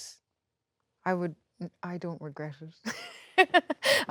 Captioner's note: laughs